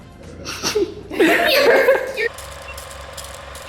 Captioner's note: laughter